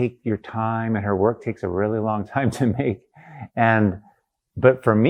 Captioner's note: laughs